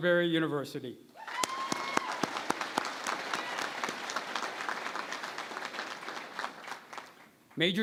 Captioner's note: applause